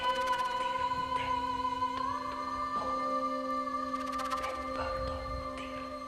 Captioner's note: soft suspenseful music; whispering continues